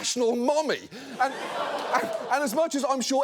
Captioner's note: audience laughs